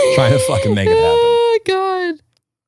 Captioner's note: laughing